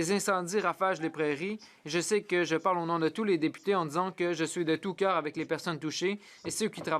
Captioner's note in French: voix de l'interprète